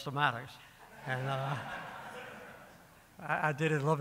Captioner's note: audience laughing